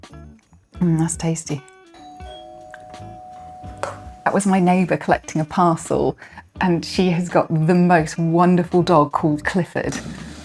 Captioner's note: ding dong